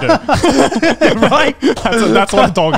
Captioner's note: laughs